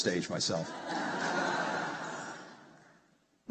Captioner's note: laughter